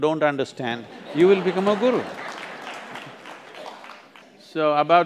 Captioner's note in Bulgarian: смях/аплодисменти